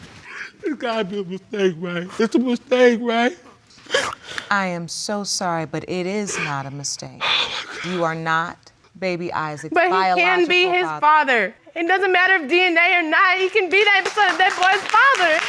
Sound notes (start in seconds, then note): 3.7 sniffles; 7.1 gasping